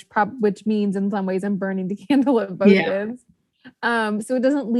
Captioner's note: laughs